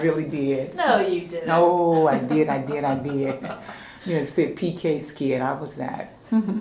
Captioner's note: laughter